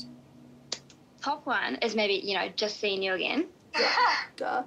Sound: chuckles; laughs

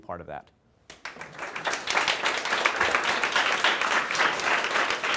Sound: audience applauding

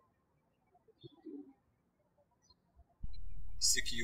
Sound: birds chirping

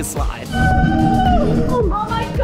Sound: shouting

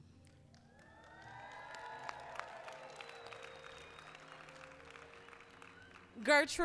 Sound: applause

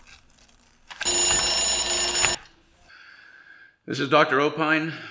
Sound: alarm rings

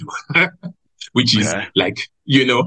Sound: laughs

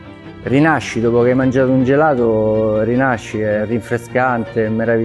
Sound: speaking in foreign language

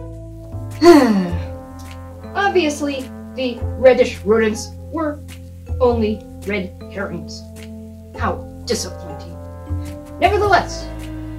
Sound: sigh

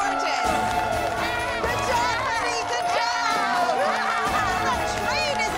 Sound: laughs

